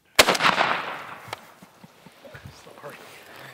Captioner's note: gunshot